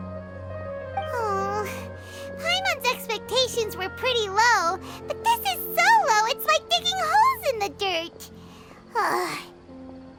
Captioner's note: sigh